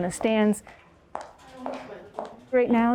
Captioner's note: heels clanking